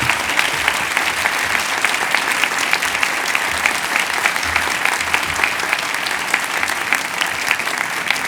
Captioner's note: cheers and applause